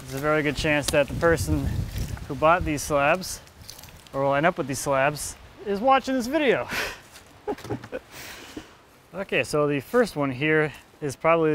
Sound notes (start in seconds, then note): 7.4 laughing